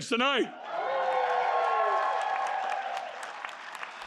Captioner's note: cheering